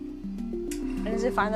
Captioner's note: bright music; machine whirring